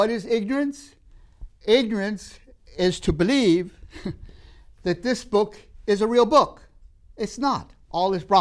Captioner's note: laughs